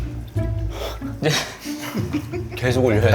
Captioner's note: chuckles